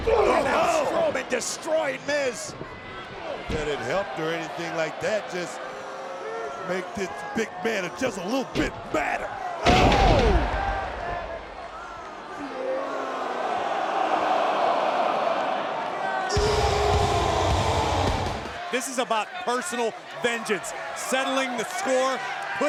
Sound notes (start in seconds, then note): 9.6 body thudding; 12.7 crowd cheering; 16.4 rock music